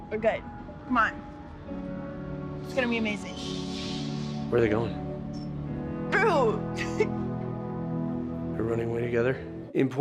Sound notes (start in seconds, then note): 7.3 laughs